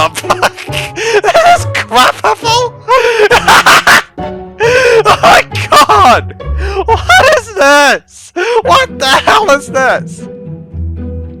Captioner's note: even more laughing